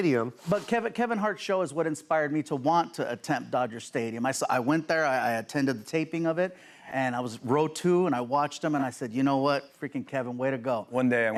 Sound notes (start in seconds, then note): none